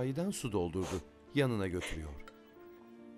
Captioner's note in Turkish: Burun çekme sesi